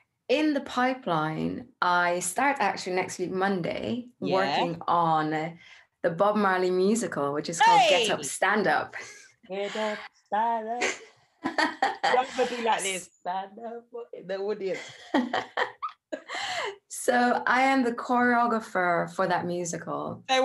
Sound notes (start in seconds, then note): 7.4 shouts excitedly; 11.4 laughs; 14.7 continues laughing